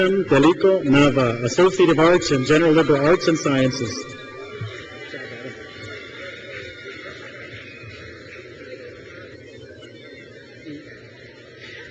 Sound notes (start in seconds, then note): 6.6 crowd cheers